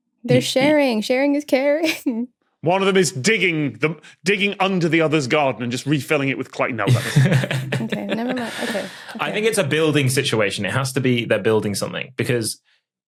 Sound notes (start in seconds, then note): 7.0 chuckle